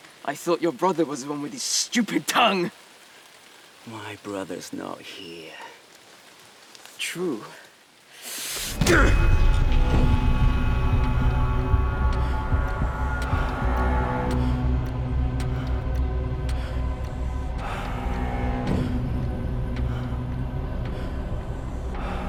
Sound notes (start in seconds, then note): 8.8 dramatic music; 14.8 birds chirping; 17.9 dramatic music